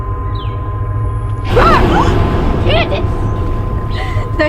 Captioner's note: Candice roars, emelie and Mollie gasp; Mollie laughing